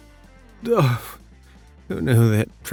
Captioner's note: sobs